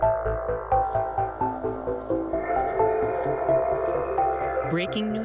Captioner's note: snowshoes brushing softly